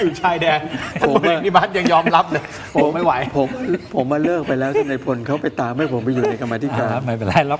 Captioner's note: laughter; laughs